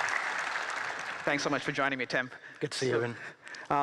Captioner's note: applause